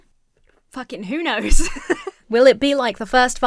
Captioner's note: laughs